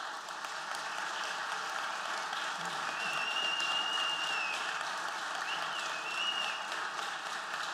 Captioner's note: applause